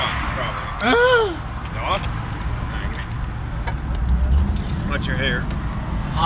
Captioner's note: groans dramatically